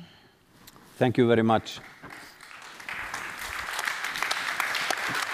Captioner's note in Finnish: Applause